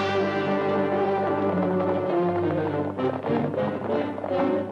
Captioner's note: hooves clopping